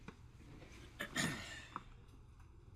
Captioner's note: clears his throat